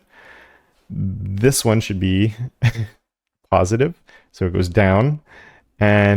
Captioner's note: laugh